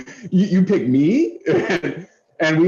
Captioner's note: laughter